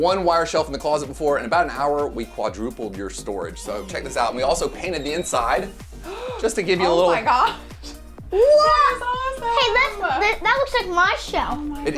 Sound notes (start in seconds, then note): 6.8 laughs